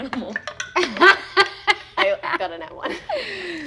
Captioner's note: laughing